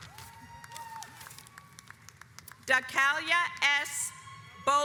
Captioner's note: audience applauds